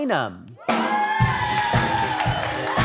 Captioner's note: audience cheering; upbeat music